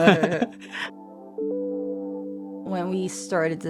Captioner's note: laughing